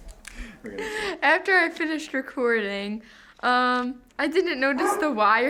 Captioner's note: laughs